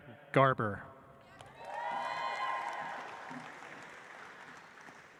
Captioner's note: audience applauds